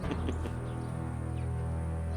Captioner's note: chortles